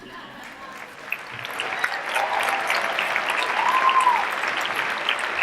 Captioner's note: applause